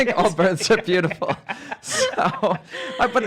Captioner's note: laughing